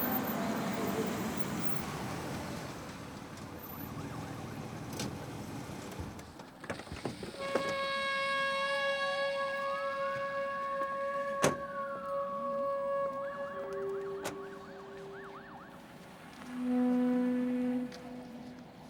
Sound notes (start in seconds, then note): 0.0 car engine roaring; 7.2 door clanking